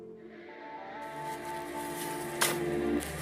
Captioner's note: people shoveling